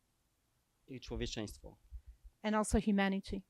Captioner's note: speaking Polish